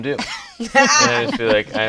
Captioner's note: laughs